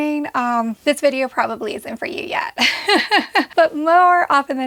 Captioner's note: chuckling